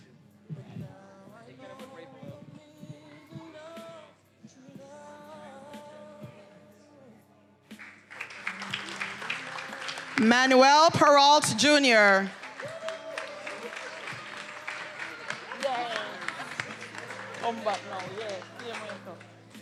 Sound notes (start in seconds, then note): 7.7 attendees applauding; 12.2 attendees applauding and cheering